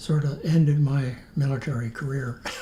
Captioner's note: laughs